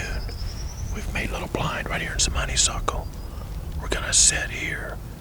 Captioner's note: whispering